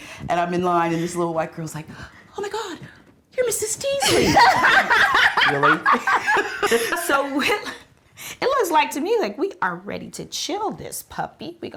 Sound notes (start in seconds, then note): 4.0 laughs